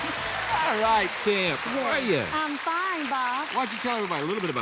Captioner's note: applause